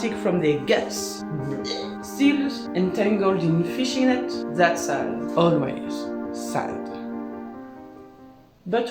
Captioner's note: puking